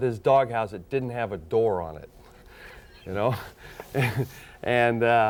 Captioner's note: laughing